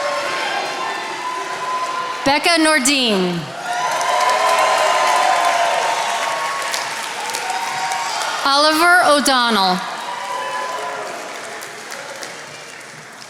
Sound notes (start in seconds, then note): 4.0 attendees applauding; 10.5 attendees applauding